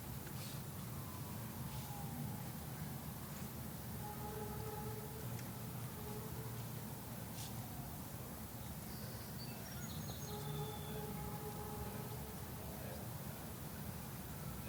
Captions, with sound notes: (sirens sound) (ambulance siren sounds) (sirens continue) - Left, left, left, right.